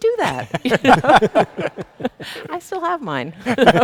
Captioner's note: people laughing